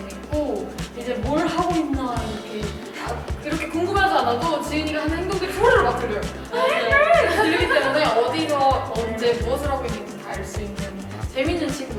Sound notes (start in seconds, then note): 6.5 imitating Jieun’s noises